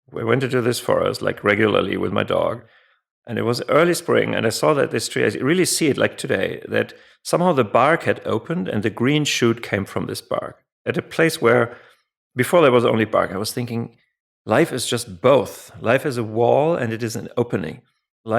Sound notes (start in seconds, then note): none